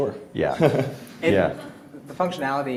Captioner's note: laughs